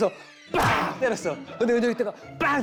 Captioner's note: bang